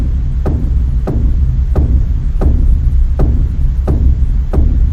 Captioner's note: footsteps thudding